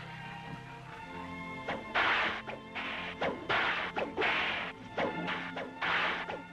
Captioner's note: cracking whip